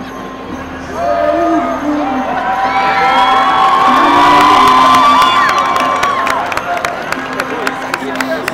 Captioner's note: crowd cheering